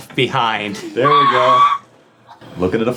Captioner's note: laughing